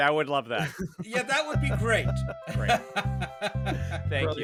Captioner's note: laughs